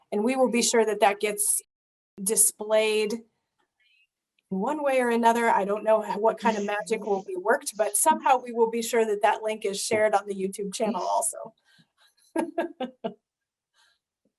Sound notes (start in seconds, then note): 12.4 laughs